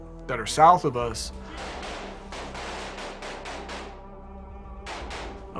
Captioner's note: gunfire